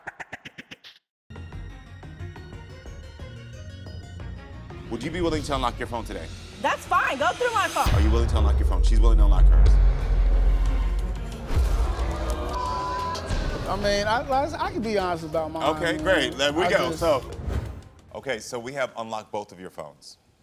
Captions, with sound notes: (dramatic music) Would you be willing to unlock your phone today? - That's fine. Go through my phone. - Are you willing to unlock your phone? She's willing to unlock hers. (dramatic music) (audience groans) - I mean, I could be honest about my mine. - Okay, great, there we go. Okay, so we have unlocked both of your phones.